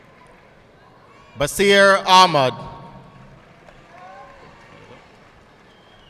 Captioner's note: audience clapping